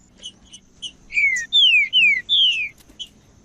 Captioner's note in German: trinca ferro cantando